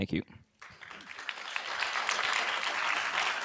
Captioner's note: applause